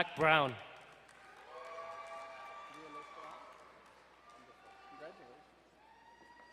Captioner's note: crowd cheering and applauding